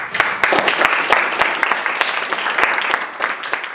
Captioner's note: applause